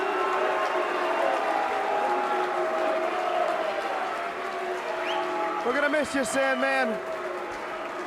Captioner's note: crowd cheering